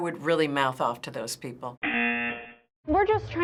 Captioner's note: buzzer